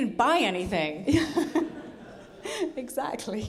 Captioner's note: audience laughing